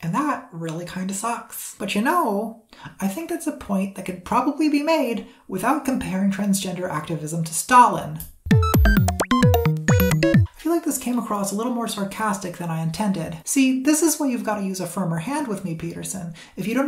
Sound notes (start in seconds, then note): 8.5 beeps and boops